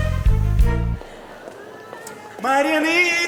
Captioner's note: airport Ambience